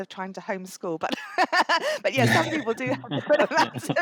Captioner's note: laughs; laughter